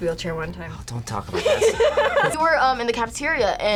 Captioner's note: both laugh